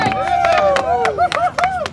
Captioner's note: cheering